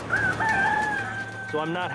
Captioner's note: chickens clucking